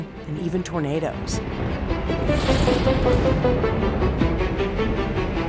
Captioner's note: thunder rumbling